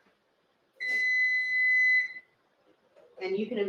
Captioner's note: oven beeps